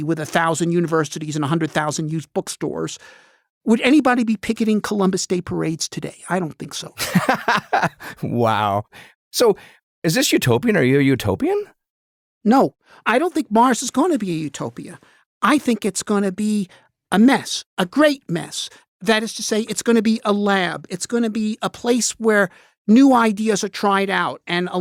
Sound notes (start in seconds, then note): 7.0 laughing